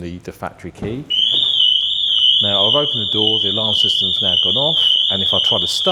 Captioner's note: alarm goes off